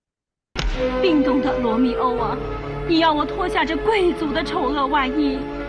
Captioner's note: actors speaking in foreign language